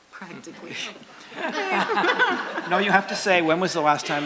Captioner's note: laughter